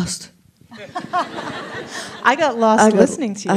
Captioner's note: laughs